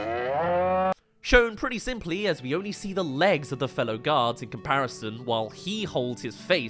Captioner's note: moo!!